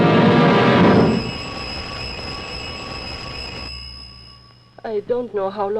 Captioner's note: doorbell Ringing